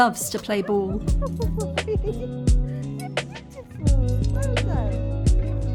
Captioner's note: laughing